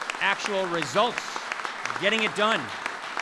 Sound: applause

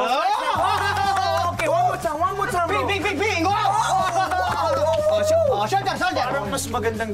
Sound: cheers

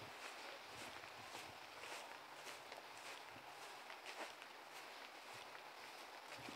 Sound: clip-clop, clip-clop

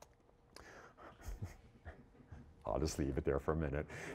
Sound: chuckling to himself

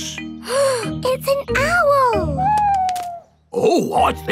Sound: gasps

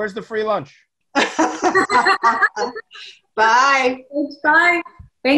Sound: laugh

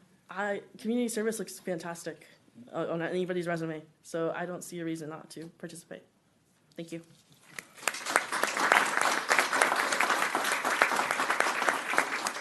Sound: applause

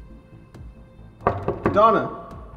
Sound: knocking

